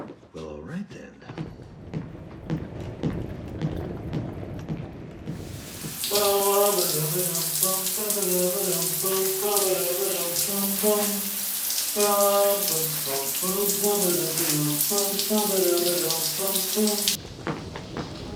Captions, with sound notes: Well, all right, then. [footsteps thudding, wheels rumbling] [humming happily]